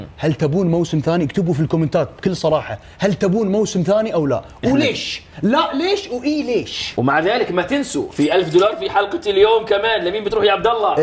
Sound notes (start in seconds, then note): none